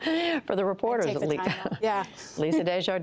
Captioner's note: laughter